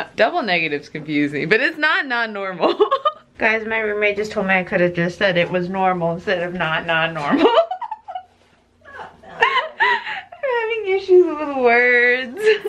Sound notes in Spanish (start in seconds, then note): 8.9 riendo